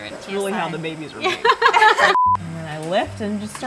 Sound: laughter

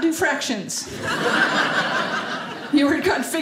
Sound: audience laughing

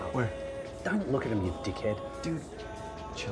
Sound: whispering

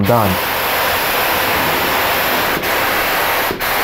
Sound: spraying noise

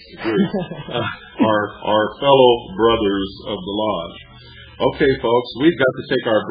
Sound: laughs

